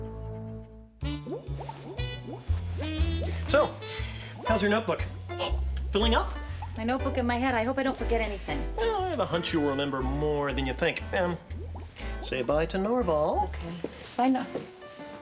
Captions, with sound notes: [gurgling] SO HOW'S YOUR NOTEBOOK? FILLING UP? MY NOTEBOOK AND MY HEAD. I HOPE I DON'T FORGET ANYTHING. WELL, I HAVE A HUNCH YOU'LL REMEMBER MORE THAN YOU THINK. AND SAY BYE TO NORVAL. OK. BYE NOR--